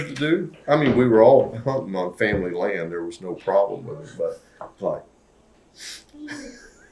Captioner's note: laughs